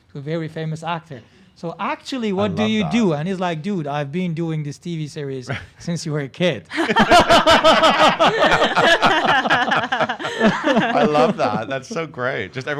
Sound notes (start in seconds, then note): 6.7 everyone laughs